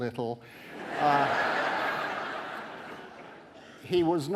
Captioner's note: audience laughing